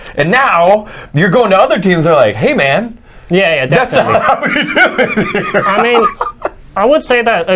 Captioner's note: laughs